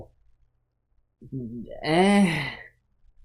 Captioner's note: stammering